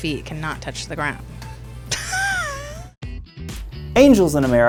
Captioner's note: laughs